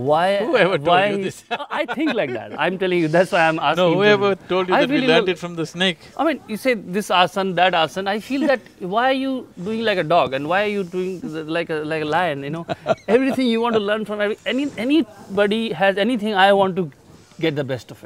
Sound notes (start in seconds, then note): 1.0 laughs; 12.5 Sadhguru laughs